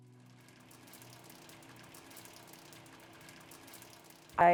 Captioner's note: frying